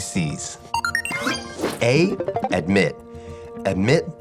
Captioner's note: computer beep